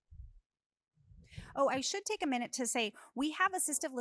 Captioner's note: none